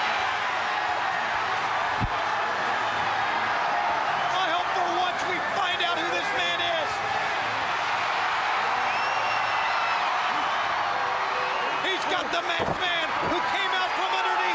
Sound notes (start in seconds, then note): 3.0 crowd cheering